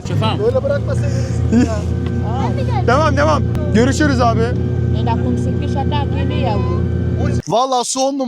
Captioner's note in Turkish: Gülüşmeler